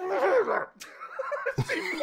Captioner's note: laughter